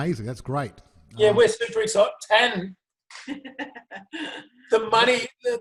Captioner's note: laughing heartily